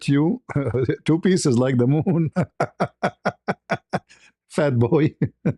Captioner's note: ketawa